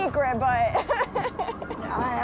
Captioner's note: laughs